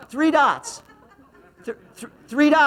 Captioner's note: laughs